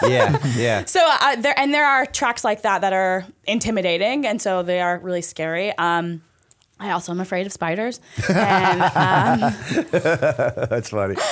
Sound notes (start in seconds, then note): 0.0 chuckle; 8.2 laughter